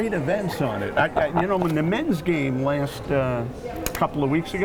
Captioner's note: laughing